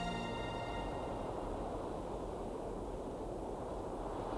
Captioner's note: wind whooshing